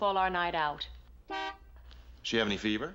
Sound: horn honks

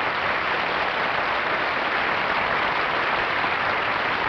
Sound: applause

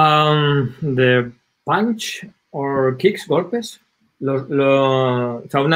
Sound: speaking in foreign language

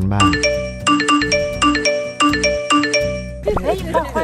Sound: phone notifications

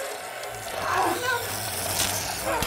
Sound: shrieking; crunching

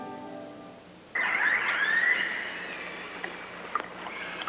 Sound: whale sounds

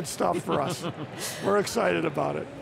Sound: laughter

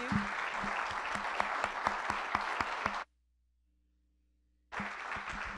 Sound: applause

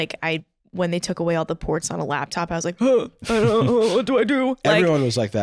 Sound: gasps

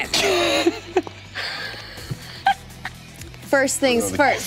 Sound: laughing

